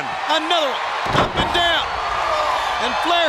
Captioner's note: Ric thudding on ring